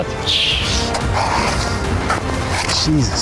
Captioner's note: shovel scrapes